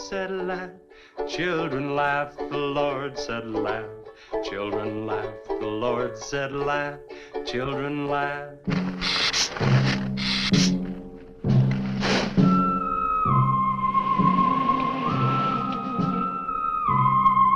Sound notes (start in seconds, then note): 8.7 dramatic music; 9.0 lizard hissing